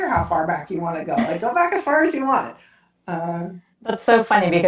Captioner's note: laughs